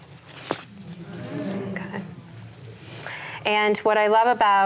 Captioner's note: audience sighs